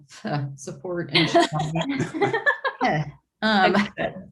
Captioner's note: group laughing